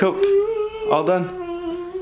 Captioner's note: humming